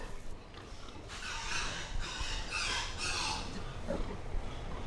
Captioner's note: pigs squealing